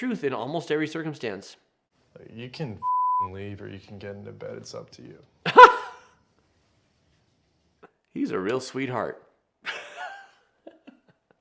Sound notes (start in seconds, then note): 2.8 beep; 5.4 laughs; 10.4 laughs